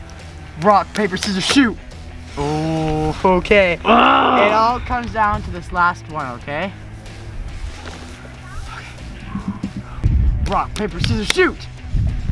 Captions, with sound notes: Rock, paper, scissors shoot. Ooh. Okay. (grunts angrily) It all comes down to this last one. Okay. Rock, paper, scissors shoot.